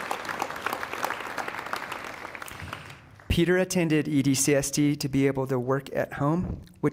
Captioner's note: applause